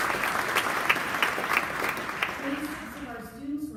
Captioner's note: applause